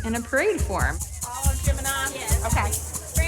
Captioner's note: chatter